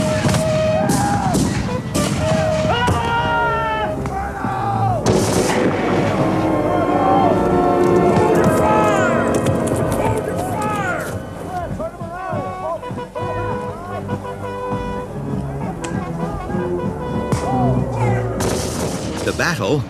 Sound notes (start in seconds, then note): 0.1 guns bang; 0.1 shouting; 12.6 horn trumpeting; 12.6 shouting; 16.7 solemn music